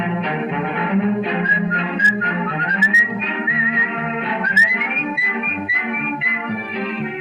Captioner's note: whistles